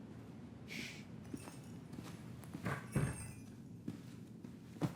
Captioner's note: bells jingling